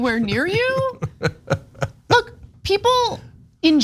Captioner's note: laugh